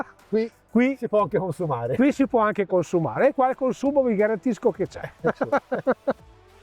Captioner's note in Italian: risate